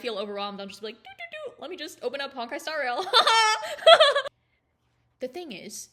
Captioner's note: laughs